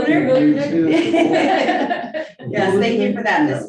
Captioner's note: group laughing